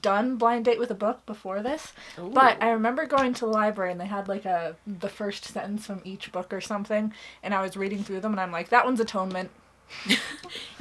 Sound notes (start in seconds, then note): 10.0 laughs